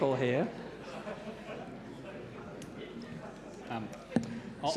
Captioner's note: audience laughs